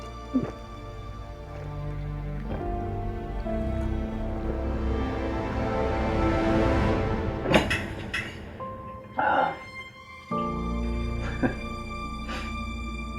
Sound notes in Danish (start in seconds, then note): 11.1 klukker